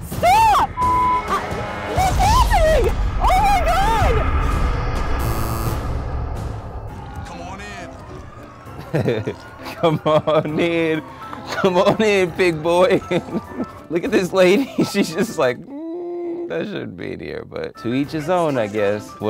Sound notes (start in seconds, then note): 5.2 negative buzzer; 8.7 laughs